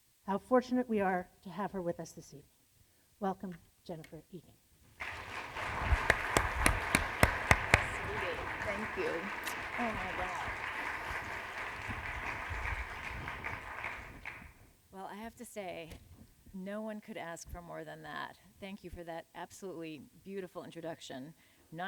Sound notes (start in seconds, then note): 4.9 applause